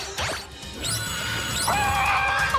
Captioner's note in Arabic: صراخ